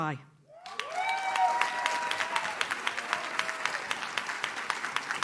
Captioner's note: audience cheers